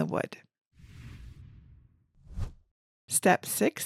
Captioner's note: image whooshes